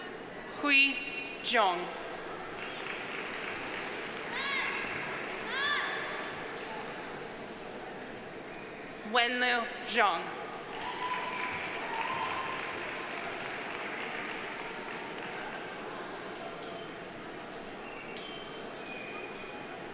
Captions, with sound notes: Hui Zhong. (audience applauding) Wenlue Zhong. (audience applauding) (audience cheering)